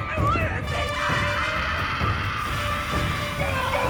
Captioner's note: dark intense music; Elaine screams; Will screams